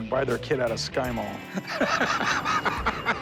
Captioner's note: laughs